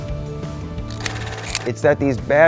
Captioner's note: film reeling